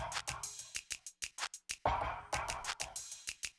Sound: rhythmic tapping and clicking

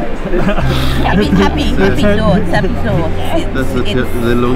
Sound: chatter

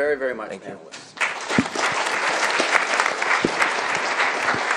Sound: applause

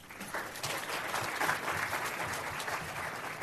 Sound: applause

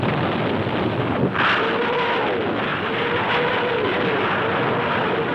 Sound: rockets whizzing

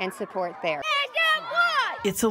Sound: cheering

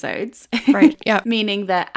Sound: laughing

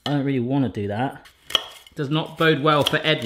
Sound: none

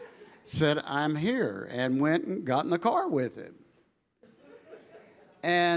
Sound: congregation laughing

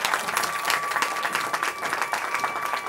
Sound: cheering

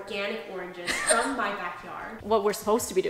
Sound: laughs

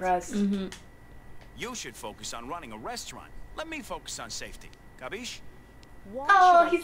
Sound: game audio

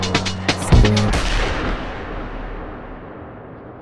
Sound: gunshot

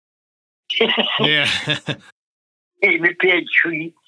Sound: laughs

